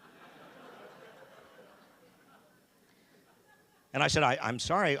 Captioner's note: audience laughing